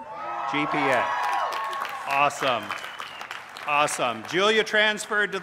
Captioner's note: cheers